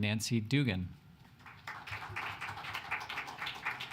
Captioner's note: applause